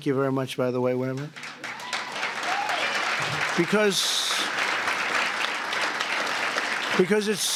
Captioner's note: applause